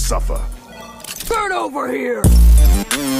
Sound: loads gun

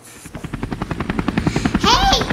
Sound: helicopter whirring

